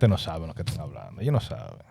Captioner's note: speaking In Foreign Language